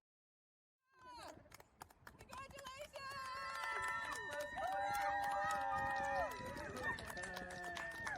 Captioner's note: clapping and cheering